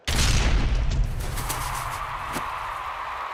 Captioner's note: cheers and applause